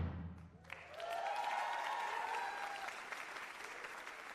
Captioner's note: cheers and applause